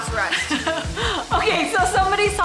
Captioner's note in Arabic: أمي تضحك